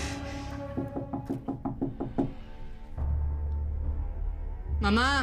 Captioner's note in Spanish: Toques en la puerta